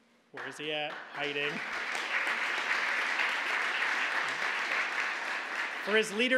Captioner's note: applause